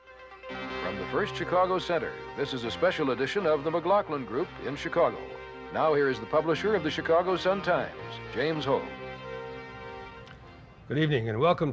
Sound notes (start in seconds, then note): none